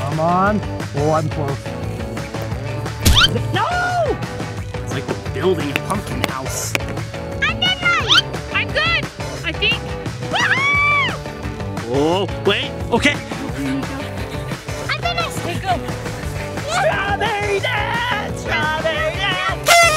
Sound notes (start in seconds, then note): 1.8 upbeat music; 3.1 pumpkins squeaking; 5.6 pumpkins tapping; 10.2 cheering; 16.2 upbeat music; 19.6 horn tooting